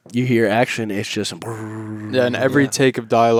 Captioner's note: hums